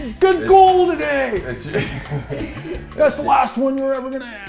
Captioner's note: laughter